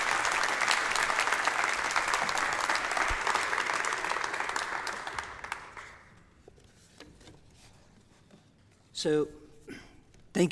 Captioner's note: applause